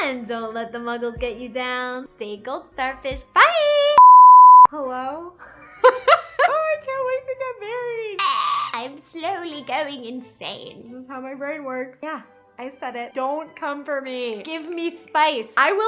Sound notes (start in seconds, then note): 4.0 beep; 6.2 laughs